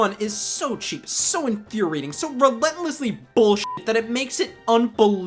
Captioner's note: beeps